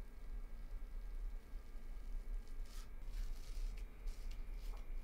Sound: none

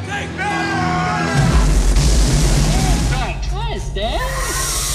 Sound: bomb exploding

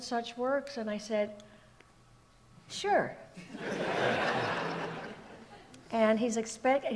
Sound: audience laughs

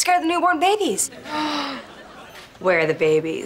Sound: gasps

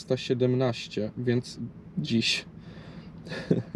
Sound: haha

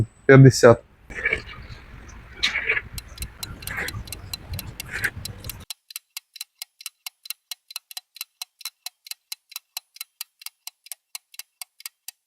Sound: the sound of the clock

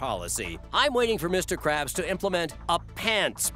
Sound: none

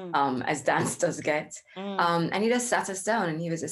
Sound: laughs

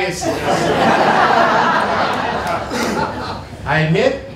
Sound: laughter

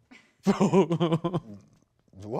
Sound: laughs

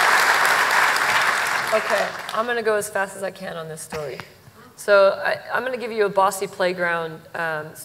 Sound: applause

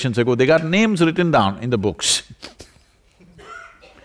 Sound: laughs

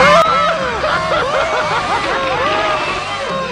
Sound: laughing like a freaking psychopath

